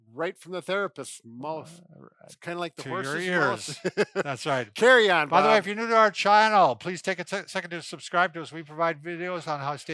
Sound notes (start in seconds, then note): 2.8 laughs